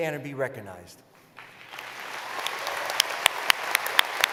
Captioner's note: applause